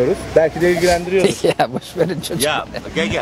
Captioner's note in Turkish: Gülme sesi